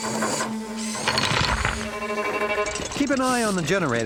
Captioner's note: clink!